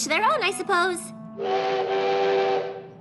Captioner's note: train whistle